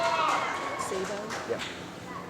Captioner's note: applause